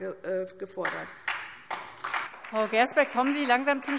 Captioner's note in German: Beifall SPD und vereinzelt DIE LINKE